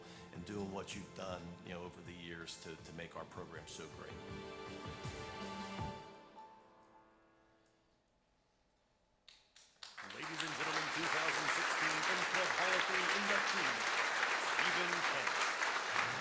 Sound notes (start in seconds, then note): 9.7 applause